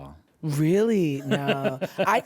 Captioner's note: laughs